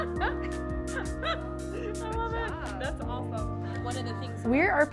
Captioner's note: laughs